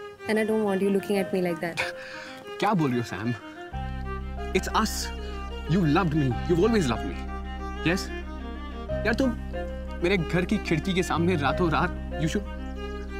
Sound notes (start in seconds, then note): none